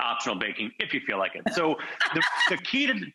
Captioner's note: laughing